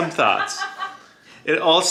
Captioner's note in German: lacht